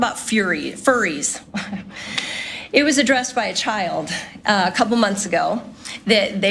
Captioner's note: laugh